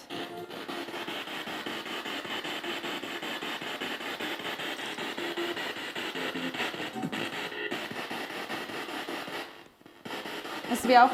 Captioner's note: noise of the spiritbox in the background